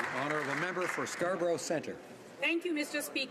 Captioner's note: some Applause